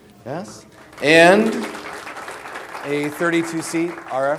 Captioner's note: audience applause